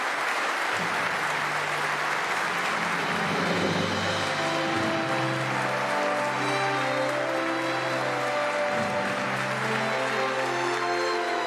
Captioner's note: applause